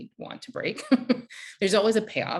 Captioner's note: chuckles